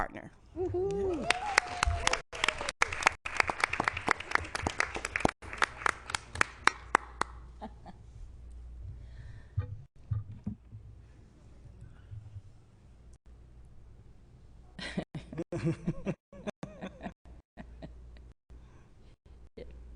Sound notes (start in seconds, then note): 6.5 applause